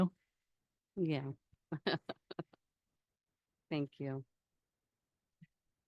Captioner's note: laughs